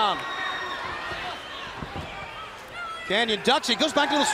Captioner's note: crowd cheering